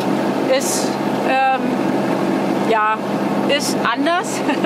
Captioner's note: laughs